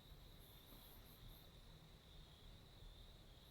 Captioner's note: insects chirping